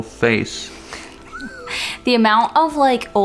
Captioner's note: laughs